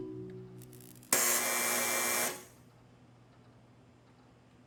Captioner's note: loud buzzing